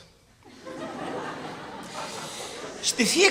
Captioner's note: laughter